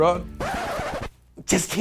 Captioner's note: record scratching